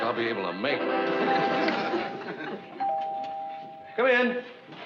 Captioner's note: doorbell rings